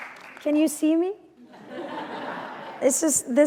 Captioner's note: laughter